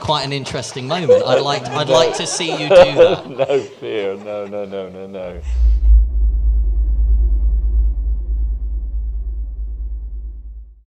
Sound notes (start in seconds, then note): 5.1 laughs